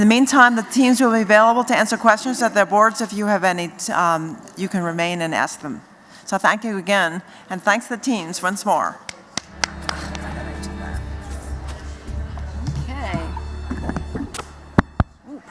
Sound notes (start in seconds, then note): 9.4 applause